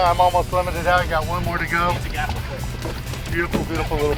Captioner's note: murmuring